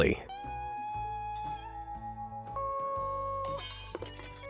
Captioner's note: glass shattering